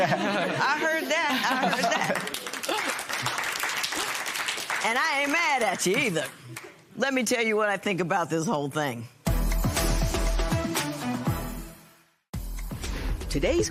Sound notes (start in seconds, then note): 2.0 applause